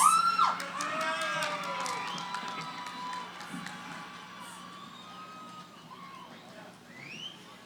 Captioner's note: cheering